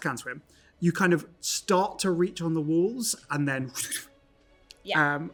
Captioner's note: morphing noise